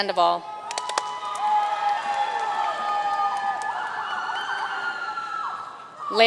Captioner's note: audience cheering and applauding